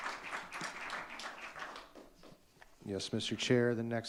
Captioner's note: audience clapping